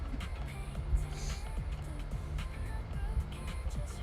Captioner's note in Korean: 콧방귀